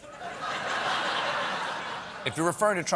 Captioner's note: laughter